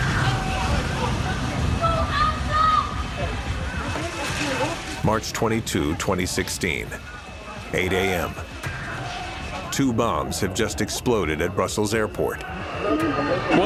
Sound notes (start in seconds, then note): 2.5 shouting